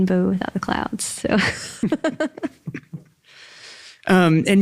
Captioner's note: laughs